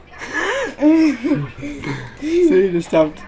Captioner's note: laughing